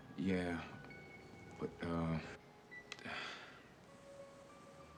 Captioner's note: sighs